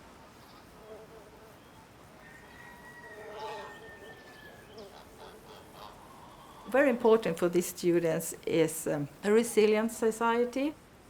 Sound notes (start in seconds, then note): 2.2 rooster crowing